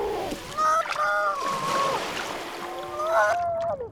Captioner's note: seal squealing